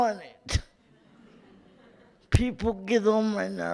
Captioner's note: light laughter in audience